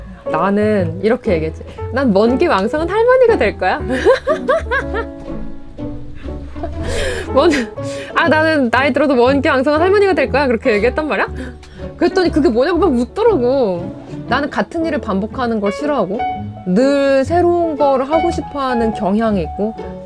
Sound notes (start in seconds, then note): 3.9 laugh; 6.5 laugh